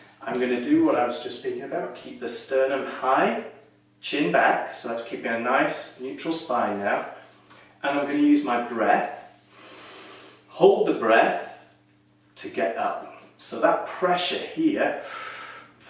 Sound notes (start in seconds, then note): 9.5 breaths in deeply; 15.0 breaths in deeply